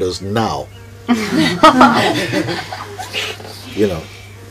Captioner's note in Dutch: gelach